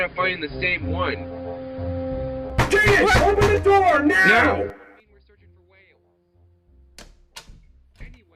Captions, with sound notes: (COMPANION BOT BANGING ON THE DOOR) JADEN OPEN THE DOOR NOW! (Door opens)